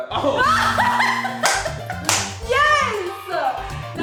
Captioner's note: laughs